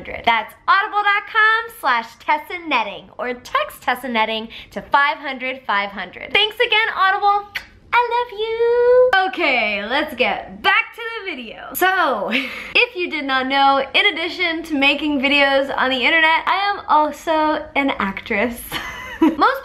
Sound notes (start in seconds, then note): 11.9 laughs